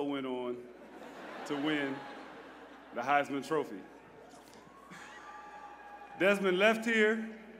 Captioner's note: laughter